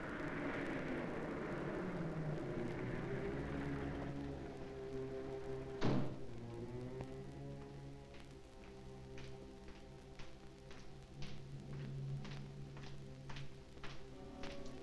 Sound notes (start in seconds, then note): 0.0 car approaching; 5.8 door slams; 11.6 footsteps thudding